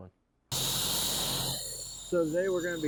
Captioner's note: sandblaster whooshing